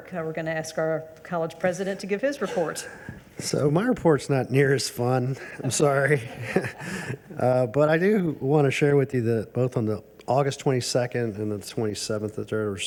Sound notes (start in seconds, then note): 5.4 chuckles; 5.5 audience chuckles